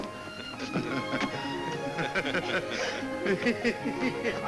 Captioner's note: men chuckle